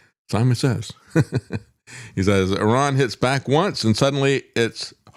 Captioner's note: laughs